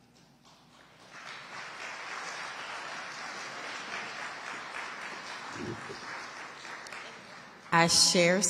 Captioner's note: audience applauding